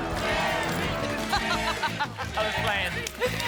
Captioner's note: audience chanting; laughs